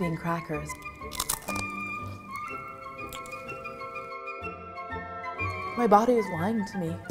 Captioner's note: crunching over jovial orchestral music